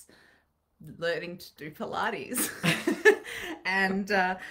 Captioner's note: chuckling